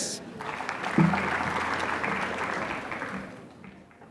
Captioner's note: applause